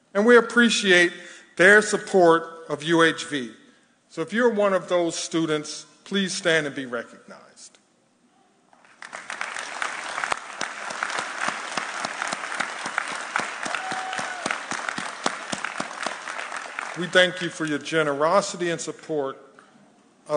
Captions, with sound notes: And we appreciate their support of UHV. So if you're one of those students, please stand and be recognized. (audience applauding) We thank you for your generosity and support